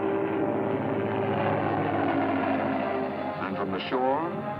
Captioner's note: airplane rumbling